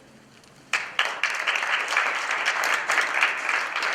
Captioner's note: applause